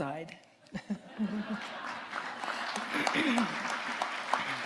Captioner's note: audience applauding